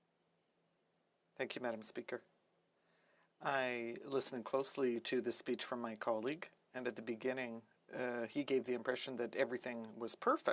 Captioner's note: speaking French